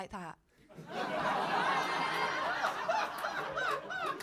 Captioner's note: crowd laughing